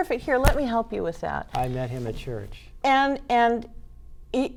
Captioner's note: pat